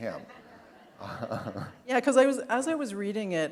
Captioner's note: laughter